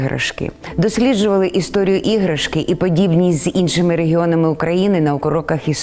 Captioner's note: speaking in foreign language